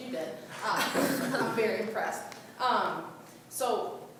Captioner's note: laughing